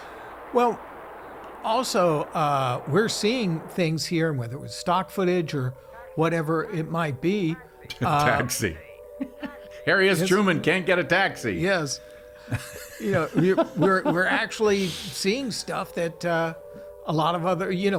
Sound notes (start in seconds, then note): 9.1 laughs; 12.4 laughing